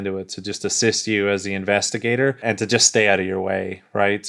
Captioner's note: none